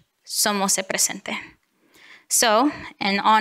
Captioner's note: speaks in foreign language